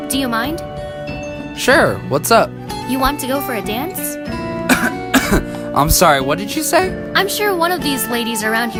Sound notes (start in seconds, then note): 4.6 cough